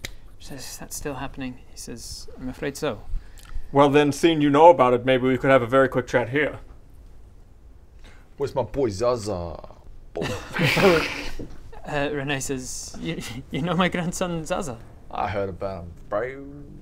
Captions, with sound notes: She says is that still happening? he says I'm afraid so Well then seeing you know about it maybe we could have a very quick chat here? Where's my boi Zaza? *laughs* Uh René says you know my grandson Zaza? I heard about him broo